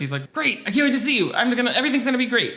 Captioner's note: none